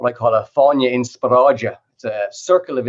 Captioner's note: non-english